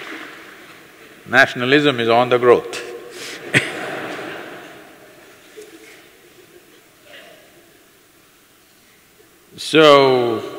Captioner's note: few Laughs